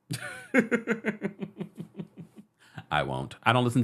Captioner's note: laughs